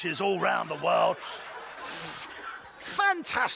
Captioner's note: laughter